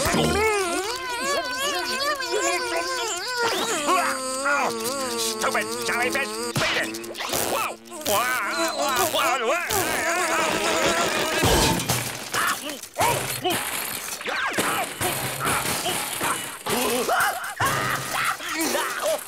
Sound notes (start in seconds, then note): 0.0 sad noises; 0.3 buzzing; 3.6 gagging; 13.9 screaming